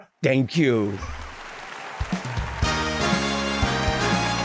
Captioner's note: clapping; audience applauding and cheering; glamorous music